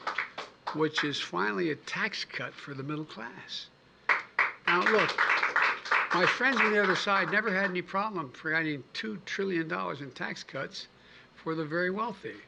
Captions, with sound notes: which is finally a tax cut for the middle class. (Applause.) Now, look, my friends on the other side never had any problem for adding $2 trillion in tax cuts for the very wealthy.